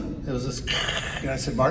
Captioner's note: crackles